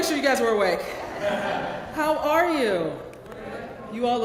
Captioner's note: laugh